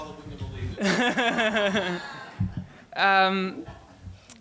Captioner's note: laughing